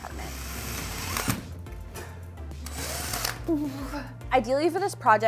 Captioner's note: drill whirring